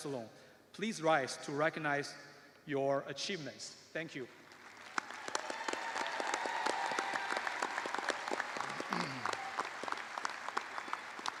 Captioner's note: cheers and applause